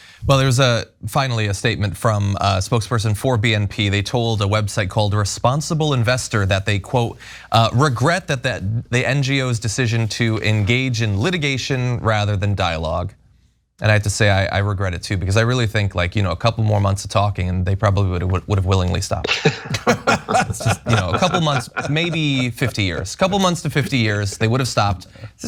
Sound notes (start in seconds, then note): 19.2 laugh